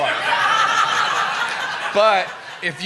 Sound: laughter

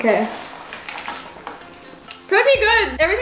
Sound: taco crunches

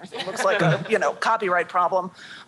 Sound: chuckling

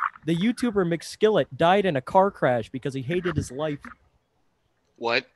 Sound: clears Throat

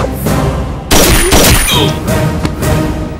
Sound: gunshot

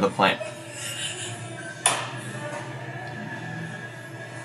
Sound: laughing

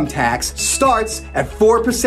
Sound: graphics ding

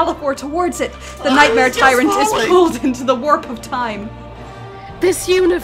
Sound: Malefor voice

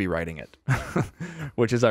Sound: chuckles

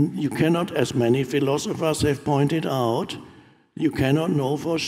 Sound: none

